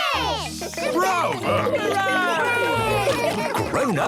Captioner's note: cheering, applauding